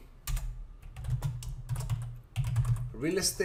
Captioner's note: keyboard typing